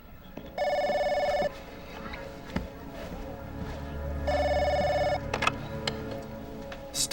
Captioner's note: phone rings